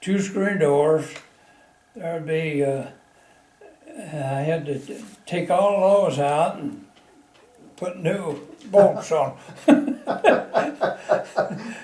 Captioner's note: laughter